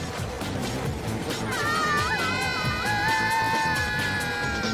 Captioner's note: girls shrieking